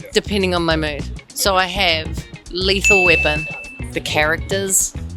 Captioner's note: bell dings